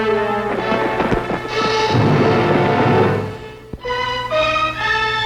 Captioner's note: footsteps thudding